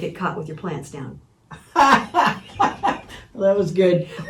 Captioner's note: laughing